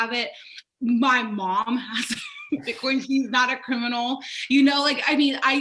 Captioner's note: laughs